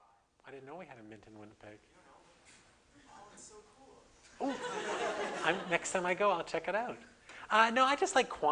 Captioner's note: audience: Laughter